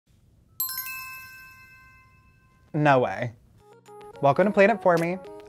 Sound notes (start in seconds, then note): 0.5 text alert